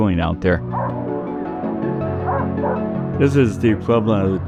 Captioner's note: dogs barking